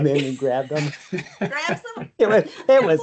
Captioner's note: laughs